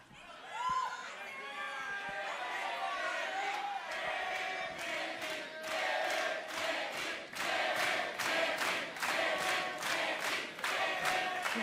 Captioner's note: crowd cheering